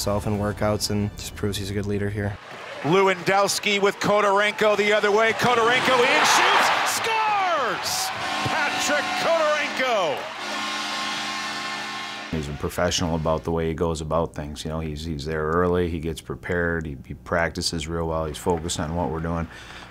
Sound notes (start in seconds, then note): 7.5 crowd cheers; 7.5 hooting; 10.7 hooting